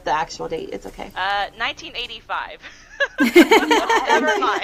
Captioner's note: laughter